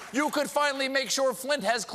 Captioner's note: cheers and applause